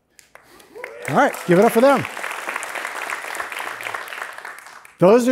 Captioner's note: applause